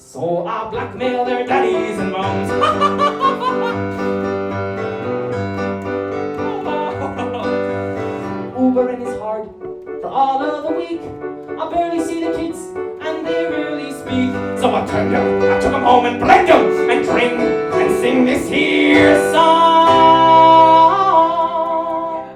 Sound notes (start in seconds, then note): 2.4 laughter intensifies